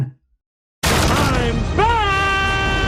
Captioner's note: door crashes open